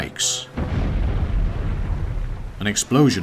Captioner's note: explosion booming